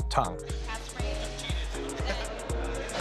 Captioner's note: laughs